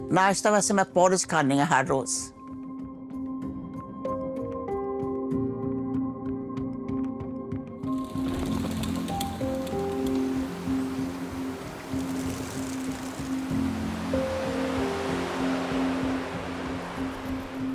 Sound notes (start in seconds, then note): 2.7 gentle music continues; 8.0 wings flutter, music continues